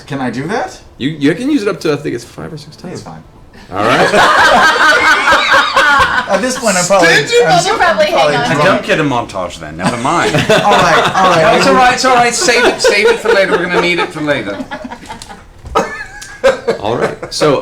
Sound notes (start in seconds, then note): 3.6 laughter